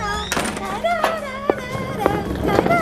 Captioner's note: clack